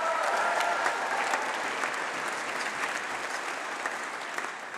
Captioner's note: applause